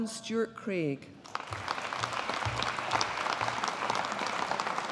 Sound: audience applauding

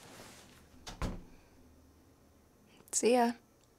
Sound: door shuts

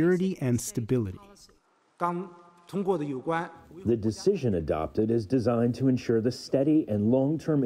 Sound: through translator

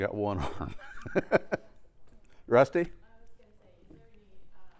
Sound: laugh

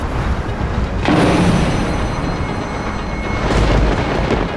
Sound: thunder cracking

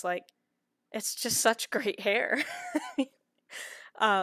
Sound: laughter

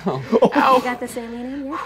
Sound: laughing

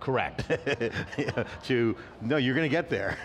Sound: laughs

